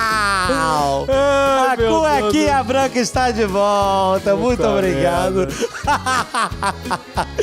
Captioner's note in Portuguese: risos